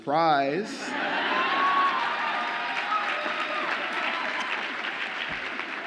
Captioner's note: audience applauds and cheers